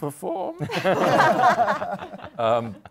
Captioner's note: laughter